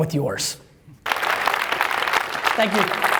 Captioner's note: audience clapping